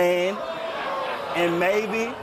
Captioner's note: audience gasping